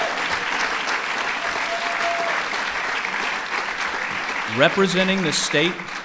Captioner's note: applause